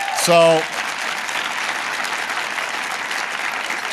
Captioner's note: applause